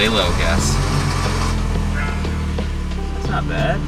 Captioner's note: car engine revs